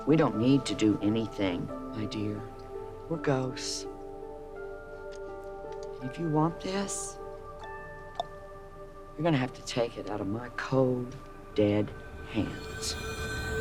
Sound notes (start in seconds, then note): 7.7 imitates clock ticking